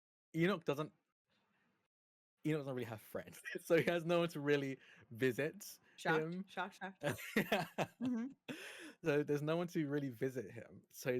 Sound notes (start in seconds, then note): 3.4 chuckles; 7.0 laughing